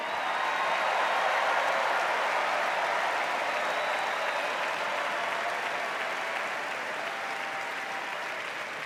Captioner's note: cheers and applause